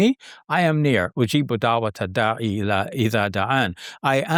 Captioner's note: speaking in foreign language